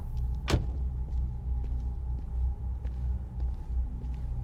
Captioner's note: door clicking